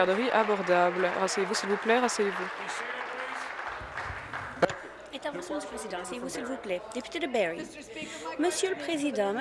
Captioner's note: applause